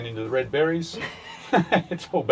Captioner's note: laughter